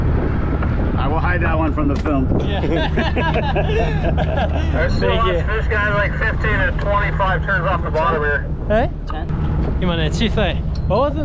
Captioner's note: laughs